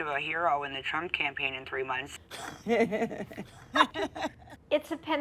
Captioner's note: laughing